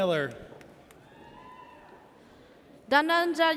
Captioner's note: audience cheers